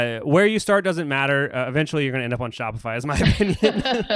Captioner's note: laughs